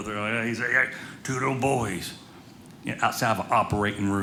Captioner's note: none